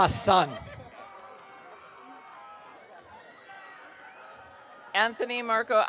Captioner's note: audience cheering